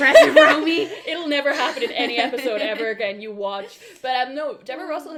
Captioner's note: laughs